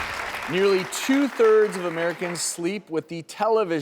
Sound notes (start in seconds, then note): 0.0 audience applauds